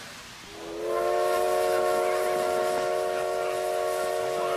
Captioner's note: train Whistle Blows